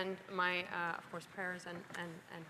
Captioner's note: speaking French